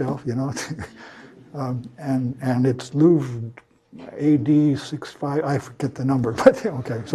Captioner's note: laugh